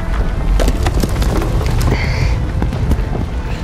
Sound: earth rumbles, rocks fall

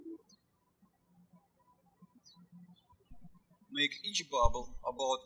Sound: birds chirping

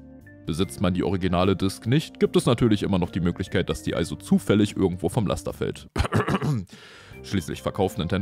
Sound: cough

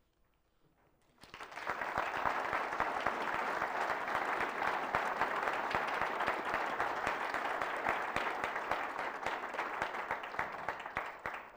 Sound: applause

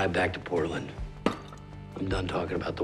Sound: bottle thuds

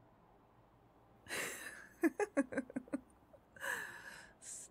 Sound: giggling

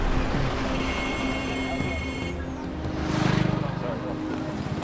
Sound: horn honks

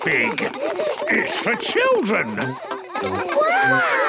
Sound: children laughing

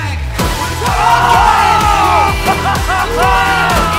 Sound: exclamations and laughter

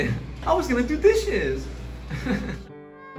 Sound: laughs

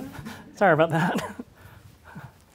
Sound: audience chuckles

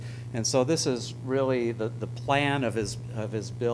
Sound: none

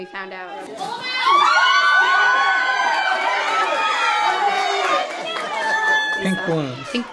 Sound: screaming and cheering

